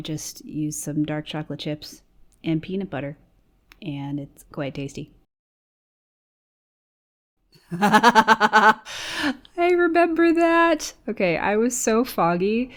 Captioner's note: laughs